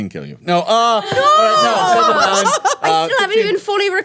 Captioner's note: everyone jeering